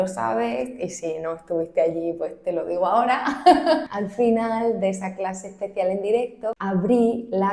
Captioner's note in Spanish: risas